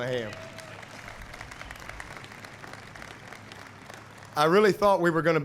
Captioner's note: applause